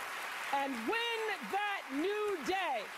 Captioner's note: applause